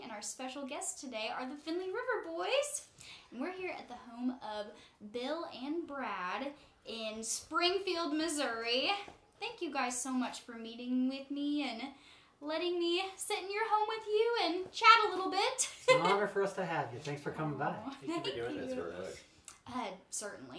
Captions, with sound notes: And our special guests today are the Finley River Boys. And we're here at the home of Bill and Brad in Springfield, Missouri. Thank you guys so much for meeting with me, and letting me sit in your home with you, and chat a little bit. (laughs) - It's an honor for us to have you. Thanks for coming by. - Thank you for doing this with us.